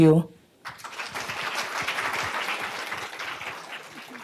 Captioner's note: applause